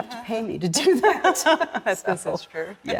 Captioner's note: laughter